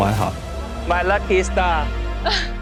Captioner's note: in English